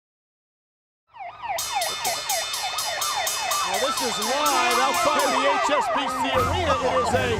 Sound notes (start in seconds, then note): 1.1 sirens wailing